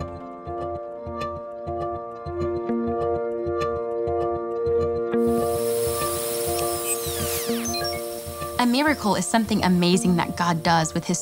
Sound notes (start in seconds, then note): 0.1 soft orchestral music; 6.6 electronic beeping